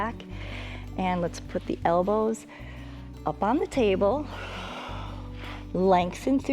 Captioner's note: exhales